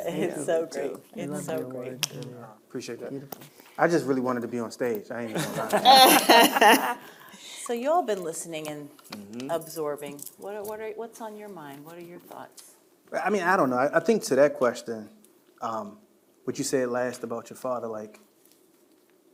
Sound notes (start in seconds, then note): 5.3 panelists laughing